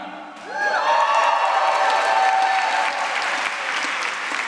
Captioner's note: applause